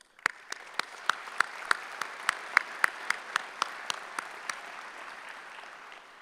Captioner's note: applause